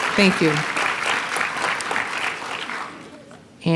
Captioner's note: applause